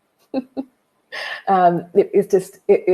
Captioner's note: chuckles